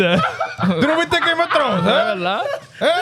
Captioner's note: speaking In Foreign Language